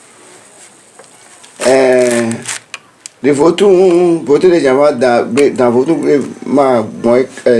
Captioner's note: stammers